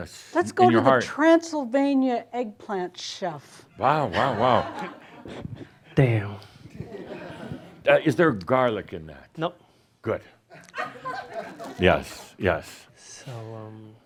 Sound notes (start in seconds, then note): 5.9 some chuckles; 6.7 more chuckles; 11.0 a few chuckles